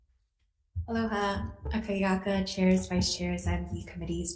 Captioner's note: speaking foreign language